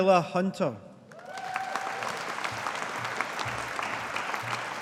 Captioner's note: audience applauding